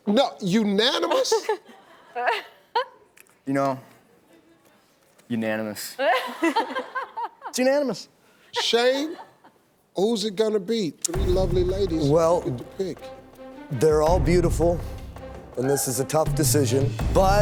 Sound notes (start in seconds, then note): 1.0 bachelorettes laughing; 6.5 laughing